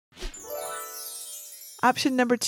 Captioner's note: graphic dinging